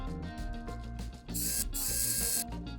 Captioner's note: wow Sick Screw Noises